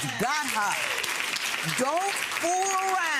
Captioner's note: audience clapping